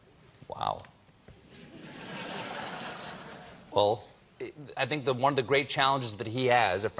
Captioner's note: laughter